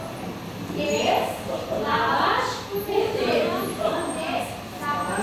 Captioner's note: speaking Armenian